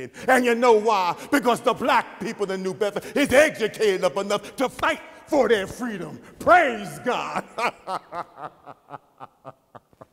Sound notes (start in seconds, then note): 7.3 chuckles